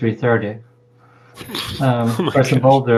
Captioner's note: chuckle